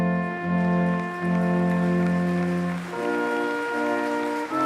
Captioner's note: applause